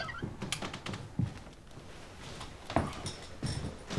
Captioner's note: none